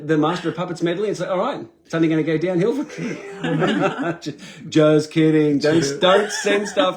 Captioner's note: laughing at the sarcasm; laughing